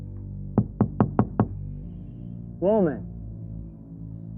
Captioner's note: Mr. Batson knocking